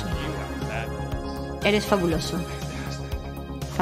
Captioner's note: speaks in english